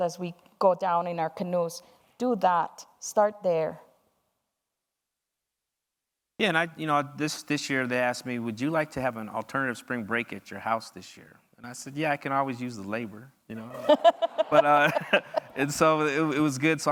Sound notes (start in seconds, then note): 13.6 audience laughs